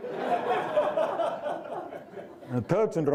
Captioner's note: audience laughing